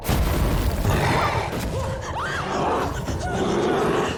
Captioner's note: snarling & screams continue; suspenseful